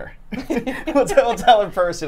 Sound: both laughing

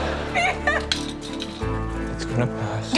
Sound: laughter; cries

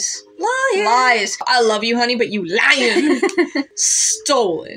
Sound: laugh

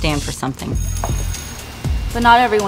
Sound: school bell rings

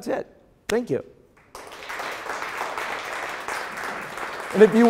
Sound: applause

